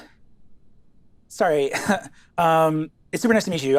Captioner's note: mutters; chuckles